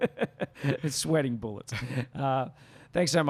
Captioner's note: laughs